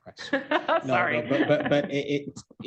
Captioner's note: laughs